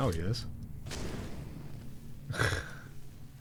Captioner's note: laughing